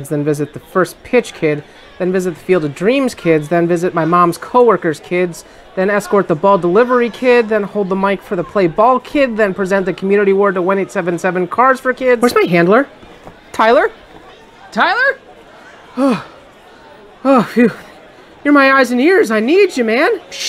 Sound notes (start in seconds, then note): 15.6 sigh of relief